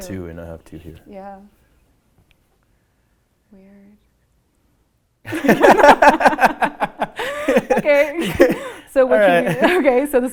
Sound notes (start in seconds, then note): 5.3 laughing